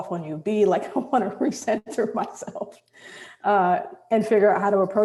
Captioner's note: chuckles